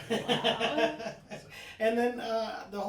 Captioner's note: all laughing